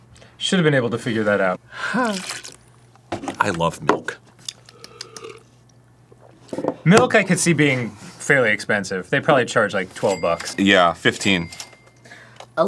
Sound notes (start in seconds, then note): 4.4 sips; 4.6 smacking his lips